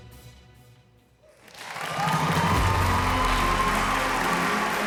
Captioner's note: cheering and applause